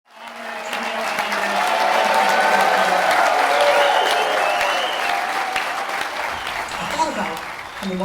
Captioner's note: applause